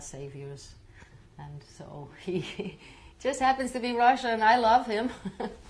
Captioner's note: laughs